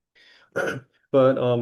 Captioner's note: clears throat